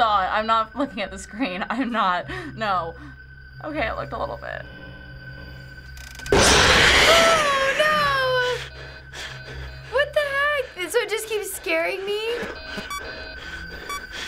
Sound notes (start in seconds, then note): 6.3 in game: growl; 7.2 whimpers; 8.5 in game: frantic panting; 13.8 in game: system blips